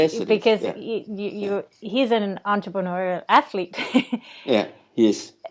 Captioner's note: laughs